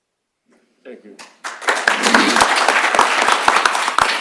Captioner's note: applause